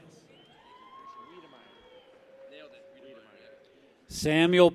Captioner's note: people cheer